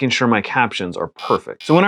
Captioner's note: buzzer